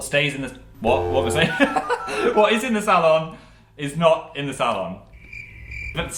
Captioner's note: laugh